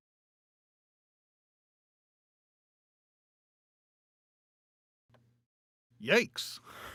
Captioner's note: silence